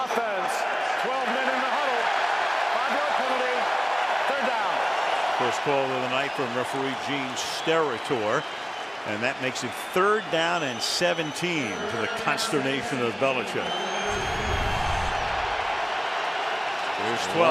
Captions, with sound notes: Substitution offense, 12 man in the huddle. [cheering] 5-yard penalty. Third down. First call of the night from Referee Gene Steratore. And that makes it third down and 17 to the consternation of Belichick. [pa announcement] [cheering]